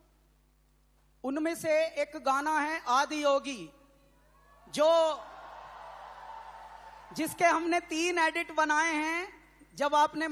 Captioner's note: speaks in Hindi - not transcribed